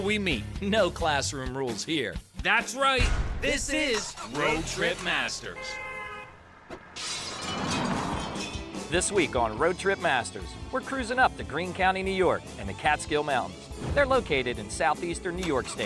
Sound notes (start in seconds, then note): 5.4 car horn honks; 6.9 glass breaking